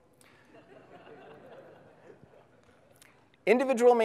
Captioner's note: audience laughs